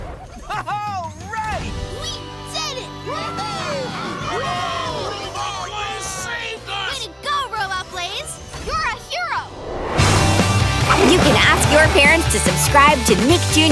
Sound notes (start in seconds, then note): 3.0 cheering